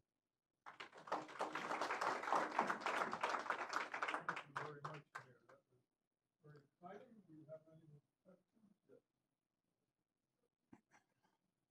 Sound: applause

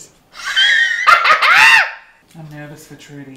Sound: Christian laughs

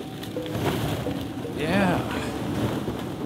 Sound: plastic balls rustling

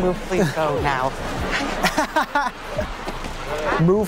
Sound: laughing

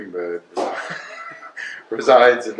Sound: laughs

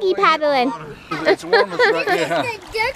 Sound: laughs

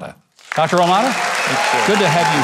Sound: audience applauding

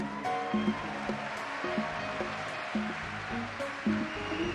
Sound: audience cheer and clap

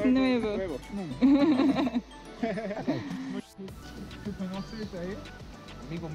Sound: laughter

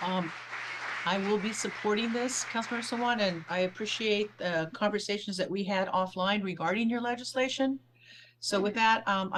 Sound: applause

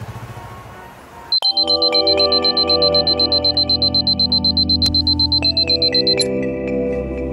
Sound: alarm rings

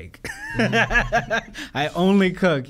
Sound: laughs

